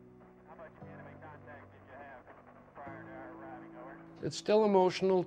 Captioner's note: radio chatter